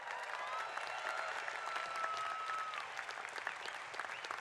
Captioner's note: cheers and applause